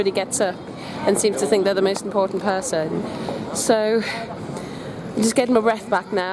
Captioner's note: deep breath